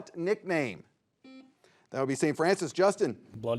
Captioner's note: buzzer beeps